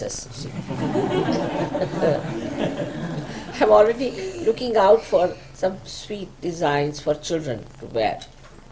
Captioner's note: laughter